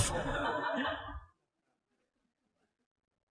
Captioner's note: audience/Questioner Laugher